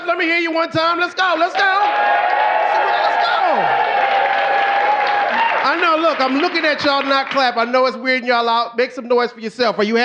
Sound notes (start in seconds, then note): 1.4 audience cheering